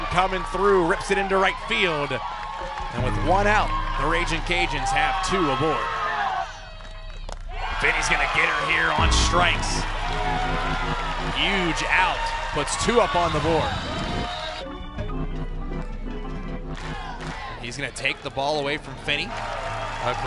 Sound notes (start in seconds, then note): 6.2 crowd Cheering